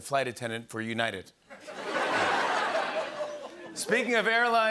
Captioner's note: laughter